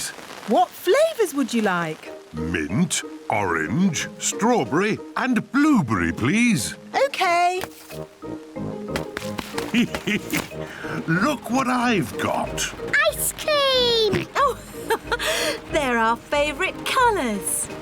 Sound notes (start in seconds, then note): 9.5 laughs; 14.1 laughs